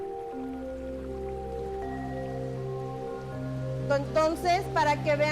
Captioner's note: water rushing